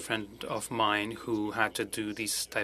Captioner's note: speaking french